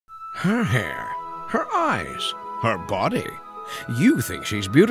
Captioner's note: voiceover